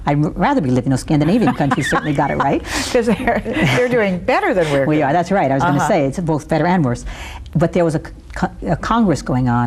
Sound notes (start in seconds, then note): 1.2 laughs